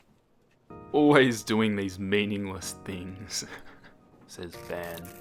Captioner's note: soft chuckle